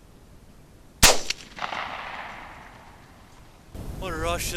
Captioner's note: gunshot cracking